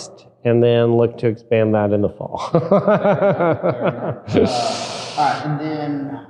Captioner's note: laughing